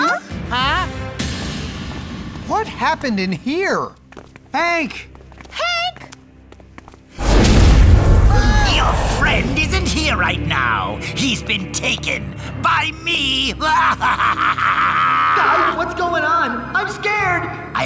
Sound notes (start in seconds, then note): 13.6 laughing